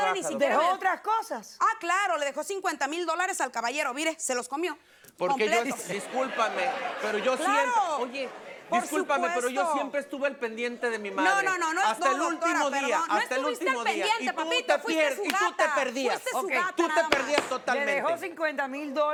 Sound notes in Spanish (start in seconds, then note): 5.8 Risas